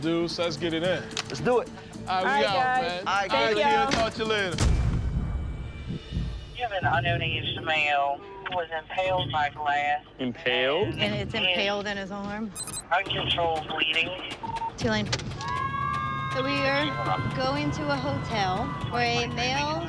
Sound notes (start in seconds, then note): 14.2 radio beeps; 15.4 siren wails